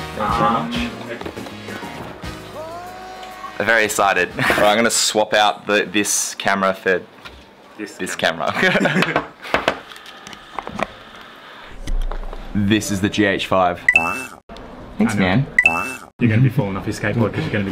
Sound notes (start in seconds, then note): 8.7 laughs